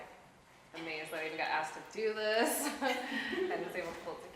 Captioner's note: laughs